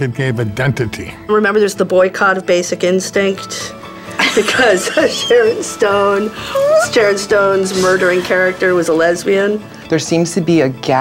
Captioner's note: laughter